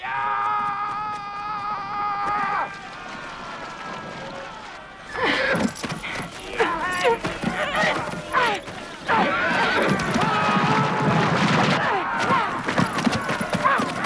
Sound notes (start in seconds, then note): 0.2 raider shouting; 2.9 raiders shouting; 5.3 Hundra gasps; 10.5 horse hooves pounding